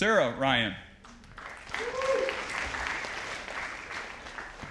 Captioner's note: audience applauding